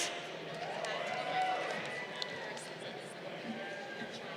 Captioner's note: crowd cheering